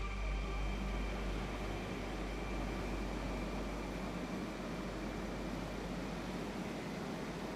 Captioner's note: gases humming in background